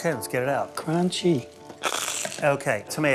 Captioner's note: loud crunch